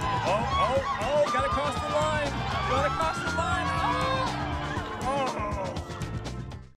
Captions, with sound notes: Oh, oh, oh! Got across the line! Going across the line! [ Cheering continues ] Almost!